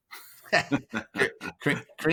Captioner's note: both laughing